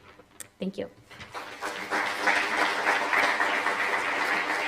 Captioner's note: applause